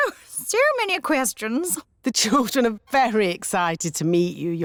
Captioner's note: none